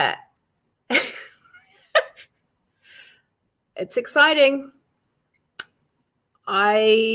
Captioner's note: laughs